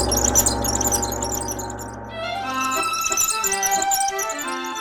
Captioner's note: gong reverberates; wheels squeak